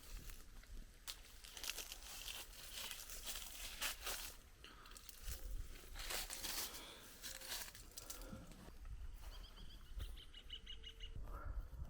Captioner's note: footsteps